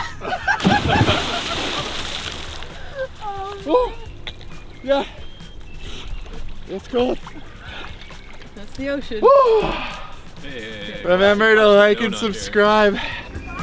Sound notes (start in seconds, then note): 0.0 laughing; 0.1 water splashing; 4.1 moans; 6.9 water splashing; 9.5 shouts